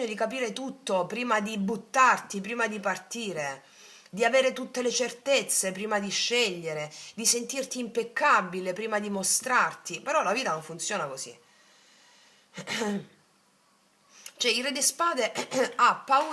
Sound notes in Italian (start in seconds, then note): 12.6 schiarire la voce